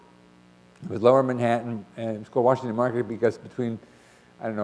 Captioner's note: none